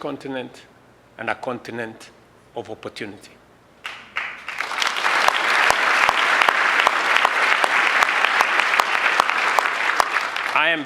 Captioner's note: applause